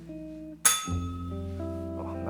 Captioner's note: bell rings